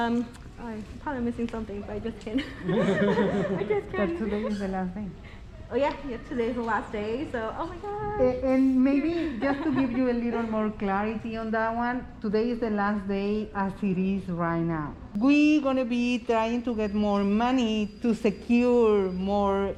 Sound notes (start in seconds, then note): 2.3 chuckles